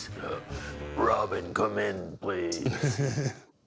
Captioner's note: batman voice; awkward laughter